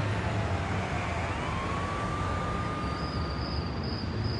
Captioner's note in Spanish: Bullicio de la calle